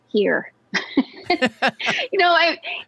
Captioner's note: laughs